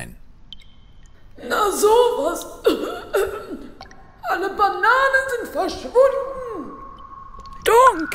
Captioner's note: cough